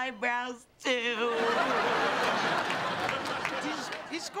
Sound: laughter

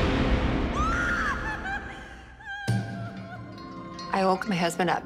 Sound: screaming

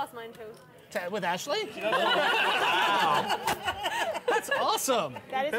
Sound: laughter

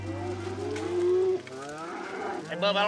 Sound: mooing

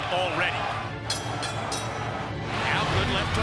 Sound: bell rings

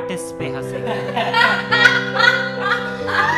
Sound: fake laughter

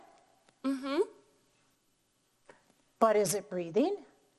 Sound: humming affirmatively

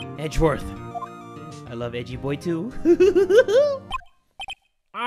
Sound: goofy excited laugh

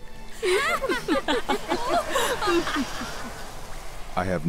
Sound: women wickedly laughing

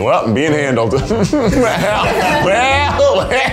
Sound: chuckles

